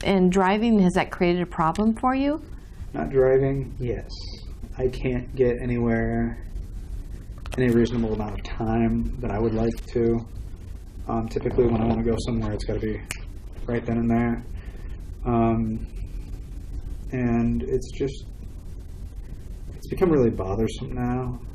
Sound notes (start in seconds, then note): 13.0 snaps fingers